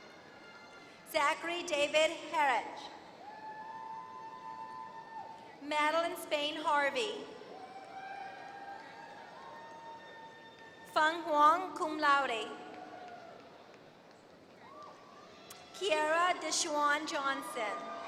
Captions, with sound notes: Zachary David Hatch. [APPLAUSE] Madeline Spain Harvey. [APPLAUSE] Fang Guan, cum laude. Kiara Deshuan Johnson.